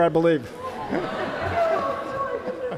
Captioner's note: audience laughing